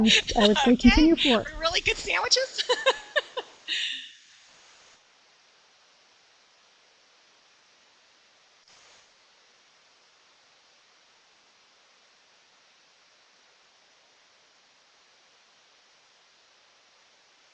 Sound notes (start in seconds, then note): 3.6 laughs